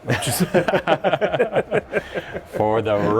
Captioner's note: both laughing